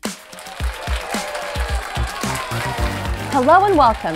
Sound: audience applauds

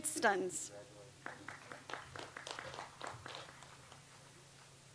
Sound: audience applauds

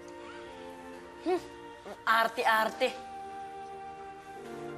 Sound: scoffs

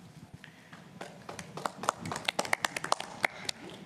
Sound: applause

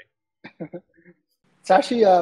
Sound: laughs

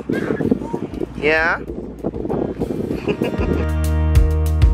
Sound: laughs; laidback music

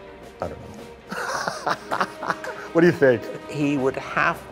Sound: laughter

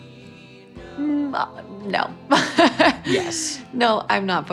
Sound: laughs

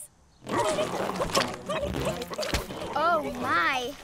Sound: burbling

